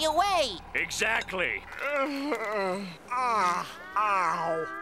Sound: groaning

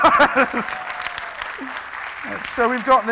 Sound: applauding

